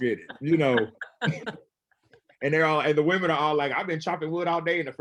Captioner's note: laughs